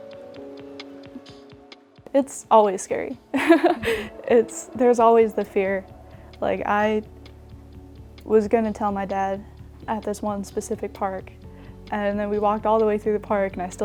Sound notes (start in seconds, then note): 3.3 laughs